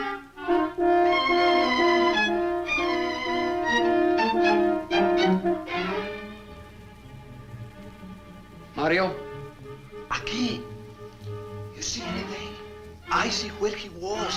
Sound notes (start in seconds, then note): 9.9 Mario speaks Spanish